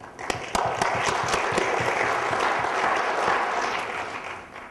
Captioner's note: applause